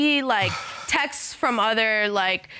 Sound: sighs

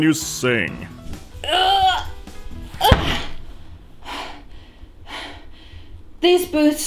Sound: pained grunt, exhales

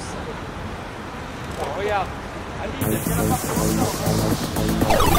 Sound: pedestrians and traffic sounds

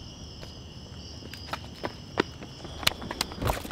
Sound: shoes run on pavement

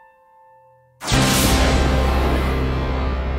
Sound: lightning

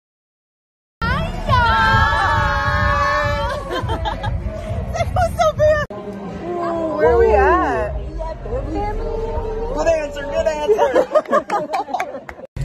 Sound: screaming

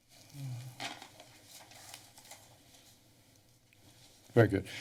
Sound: paper rustling

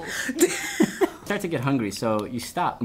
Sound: laughing

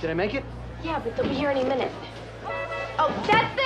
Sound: car honking horn

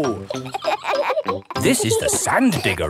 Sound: kids laughing

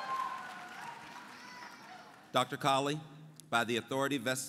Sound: applause

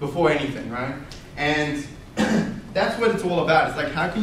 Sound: coughs

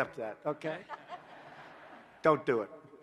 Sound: laughter

